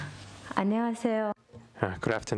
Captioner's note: speaking korean